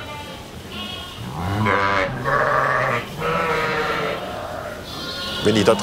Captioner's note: bleating from sheep and lambs